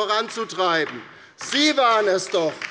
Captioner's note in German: Beifall bei der LINKEN